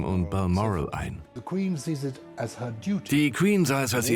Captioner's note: voiceover